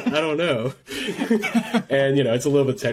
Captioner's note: laughs